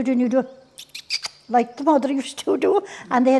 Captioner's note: mama bird sounds